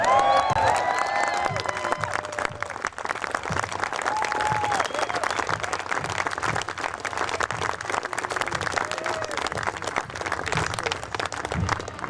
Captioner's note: shouted commands; applause and music